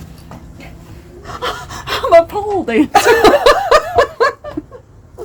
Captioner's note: laughing; laughs